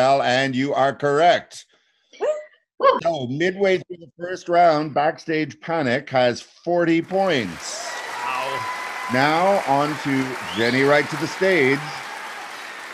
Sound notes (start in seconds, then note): 7.0 audience applauding